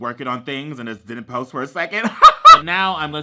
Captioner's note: laughs